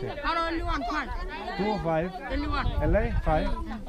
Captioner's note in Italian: Inglese